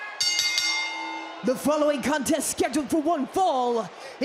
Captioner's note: bell rings